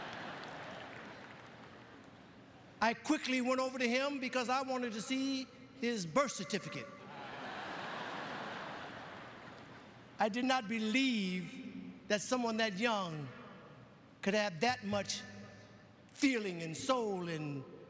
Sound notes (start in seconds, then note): 4.8 lauaughghteter